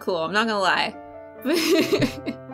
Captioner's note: laughter